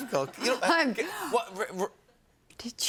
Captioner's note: gasps